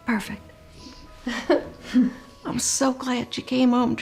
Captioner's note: chuckles